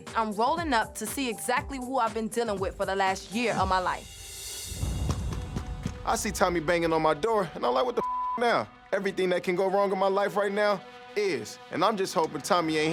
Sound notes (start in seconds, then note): 8.0 beep